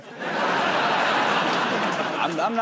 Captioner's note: laughter